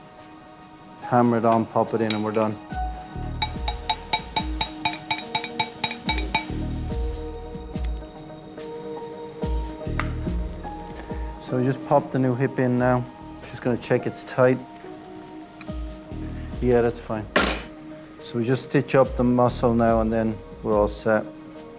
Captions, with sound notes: hammer it on, pop it in and we're done. (hammer thudding) (suspenseful music) So we just popped the new hip in now. Just gonna check it's tight. Yeah, that's fine. So we just stitch up the muscle now and then we're all set.